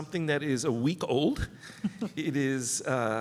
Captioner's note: laughter